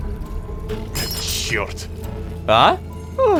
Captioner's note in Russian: Звук разбитой вазы